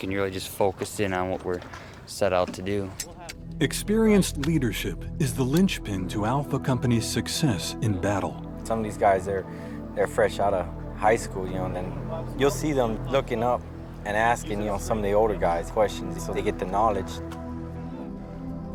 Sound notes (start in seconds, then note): 3.8 voiceover